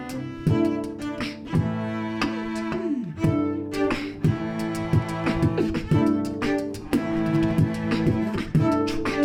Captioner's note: classic music; beat boxing